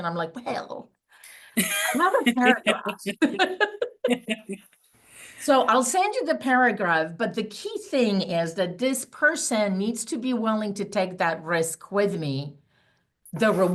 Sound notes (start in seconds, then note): 1.6 both laughing